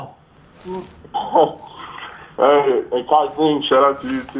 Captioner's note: laughs